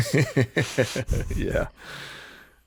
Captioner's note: everyone giggling